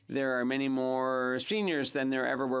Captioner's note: speaking in French